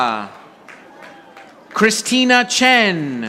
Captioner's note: audience applauding